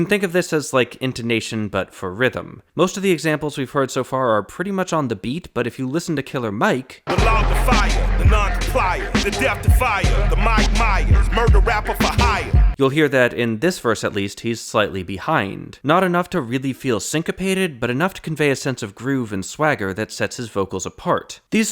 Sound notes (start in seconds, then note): 7.0 bang